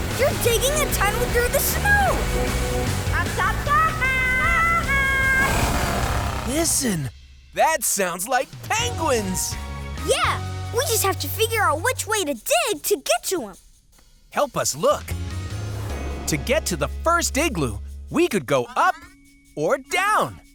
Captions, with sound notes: you're digging a tunnel through the snow! [squeaking] Listen, that sounds like penguins! Yeah, we just have to figure out which way to dig to get to them. Help us look, to get to the first igloo, we could go up or down.